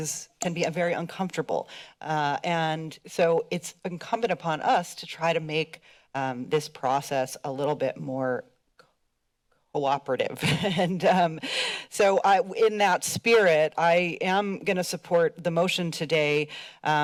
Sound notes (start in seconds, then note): 10.1 laughs